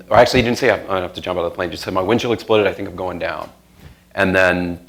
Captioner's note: none